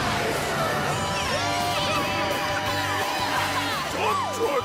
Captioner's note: cheering